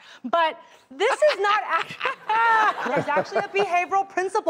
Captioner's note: laughing